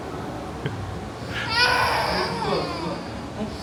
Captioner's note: crying